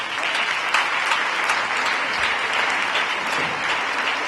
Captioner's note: applause